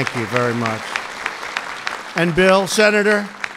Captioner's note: applause